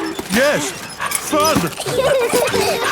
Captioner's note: straining; peppa and george laughing